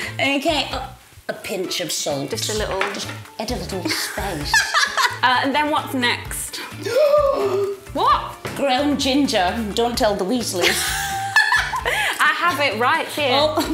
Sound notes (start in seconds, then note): 4.6 laughs; 6.5 gasps; 10.7 laughs